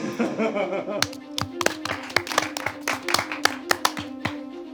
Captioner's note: everyone applauding